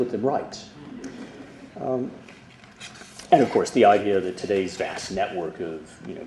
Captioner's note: laughter